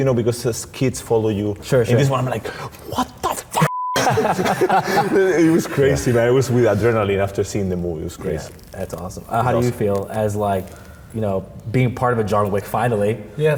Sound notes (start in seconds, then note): 3.9 group laughing